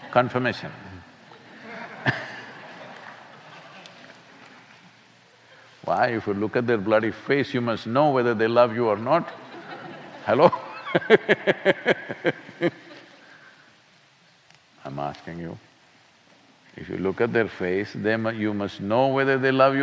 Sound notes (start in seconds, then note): 1.2 laughter; 9.2 laughter; 12.7 laughs